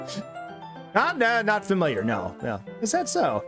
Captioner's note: laughs